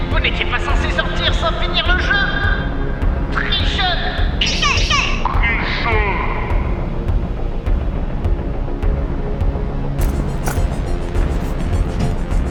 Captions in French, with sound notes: Vous n'étiez pas sensé sortir sans finir le jeu ! TRICHEURS ! ( *Voix accélérée* ) TRICHEURS ! TRICHEURS ! ( *Voix ralentie *) TRIIICHEUUURS !